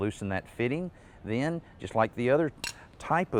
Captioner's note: wrench clanking